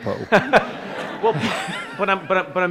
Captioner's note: laughter